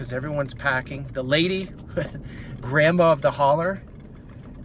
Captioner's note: laughs